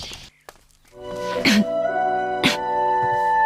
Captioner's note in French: Tousse